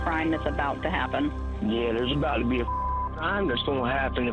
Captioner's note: caller speaking